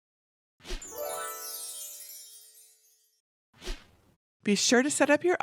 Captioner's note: fairy dust sound effect